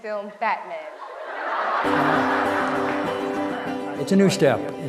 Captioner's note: laughter